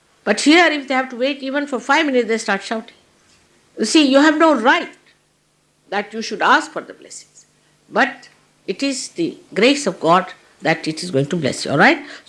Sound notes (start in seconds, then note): none